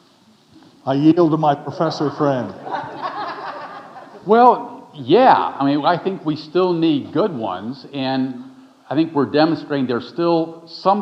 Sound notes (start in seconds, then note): 1.7 audience laughing